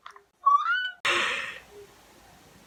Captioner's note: inhale